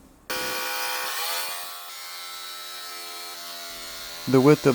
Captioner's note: jigsaw cutting aluminum